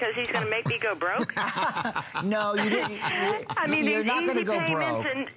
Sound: laughter

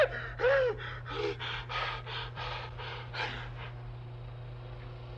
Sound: Barney panting

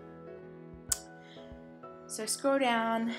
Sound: another lip smack; sharp inhale

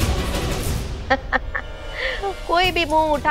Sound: chuckling

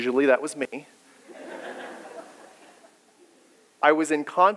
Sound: people laughing

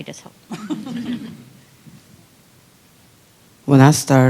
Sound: laughter

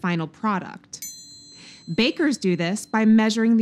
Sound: bell dings

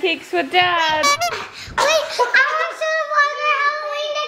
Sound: clown horn honks

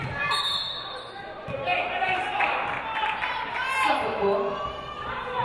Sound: referee blows whistle

